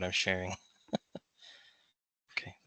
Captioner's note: chuckles